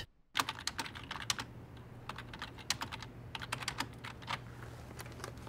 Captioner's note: computer keyboard clacks